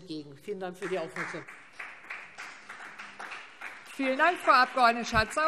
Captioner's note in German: Beifall Freie Demokraten